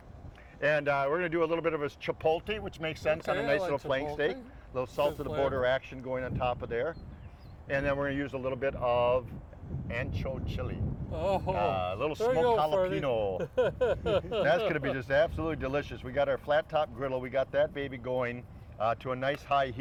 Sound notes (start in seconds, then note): 13.3 chuckles